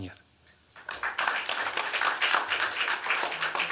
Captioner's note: applause